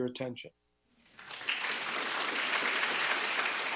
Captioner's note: applause